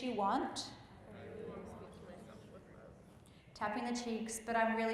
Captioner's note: group murmurs